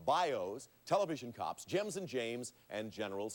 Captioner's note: none